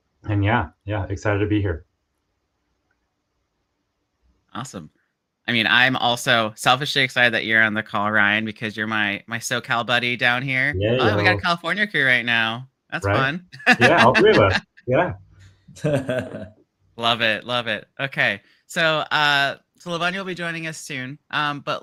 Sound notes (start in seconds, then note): 13.0 laughs